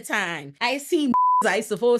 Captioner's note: beep